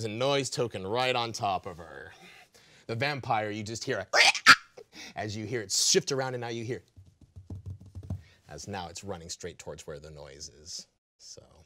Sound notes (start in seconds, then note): 4.2 making screeching noise; 7.0 thumping fingers on table